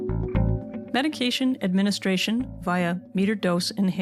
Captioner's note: voiceover